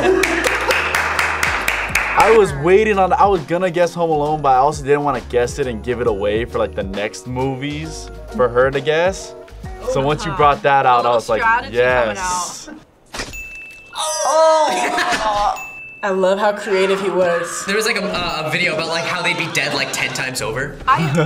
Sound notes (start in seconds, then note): 0.1 claps; 13.3 bell rings; 14.0 laughs